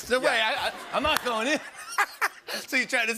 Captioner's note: laughter